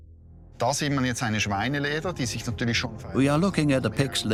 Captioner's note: speaks German